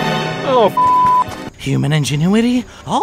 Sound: intense music; beep

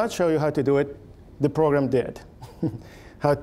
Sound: chuckling

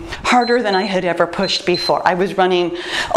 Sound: timer beeps

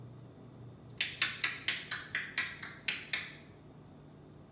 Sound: bird clucks

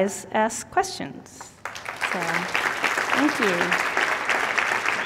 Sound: applause

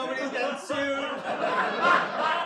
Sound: laughter

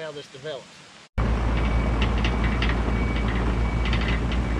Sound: excavator grading

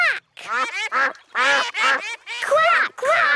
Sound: quacking

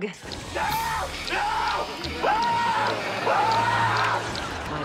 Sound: Mr. Pool screaming

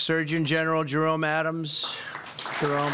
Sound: applause

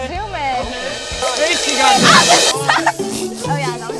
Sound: reverse cymbal crashes; comical music

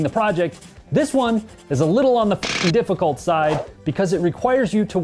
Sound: beep

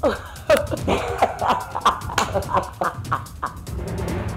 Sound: both laughing

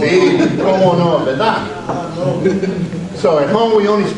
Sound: audience members respond in Spanish; speaks Spanish

